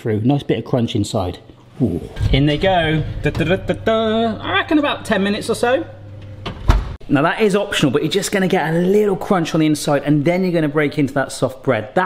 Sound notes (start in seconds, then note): none